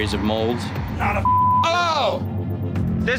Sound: beep

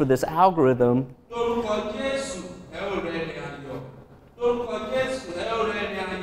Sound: speaking in a foreign language

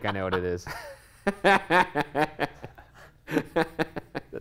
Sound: laughter

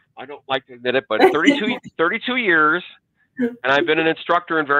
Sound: chuckles

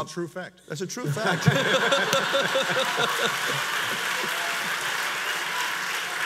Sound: audience laughs and applauds

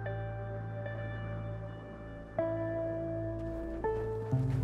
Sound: wind blowing

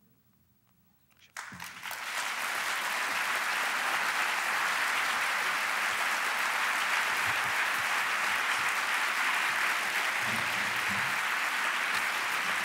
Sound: applause

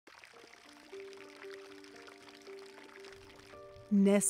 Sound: water trickling

